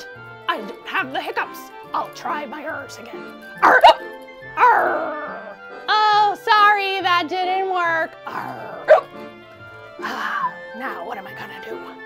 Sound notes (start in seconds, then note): 3.6 hiccups